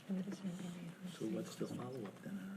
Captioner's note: speaking faintly